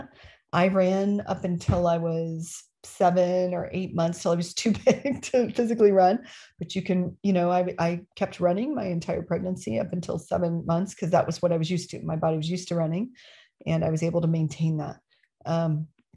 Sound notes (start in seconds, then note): 4.8 laughter